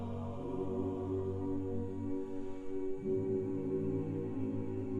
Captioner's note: humming continues